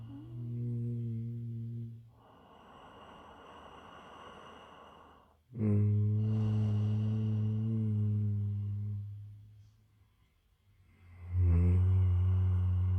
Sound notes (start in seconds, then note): 1.9 humming & Breathing